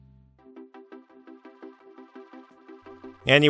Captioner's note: rising electronic sounds of whim